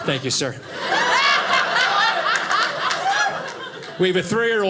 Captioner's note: audience laughing